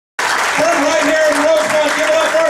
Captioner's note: audience applauding